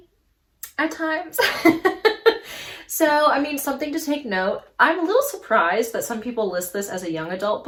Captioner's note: laughs